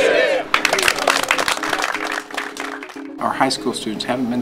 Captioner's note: applause